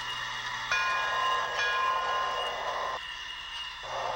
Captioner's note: bell clanging